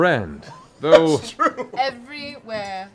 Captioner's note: laughs